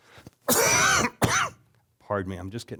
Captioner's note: coughing